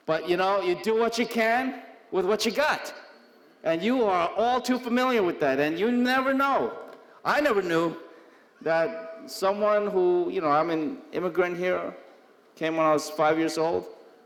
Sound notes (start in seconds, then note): none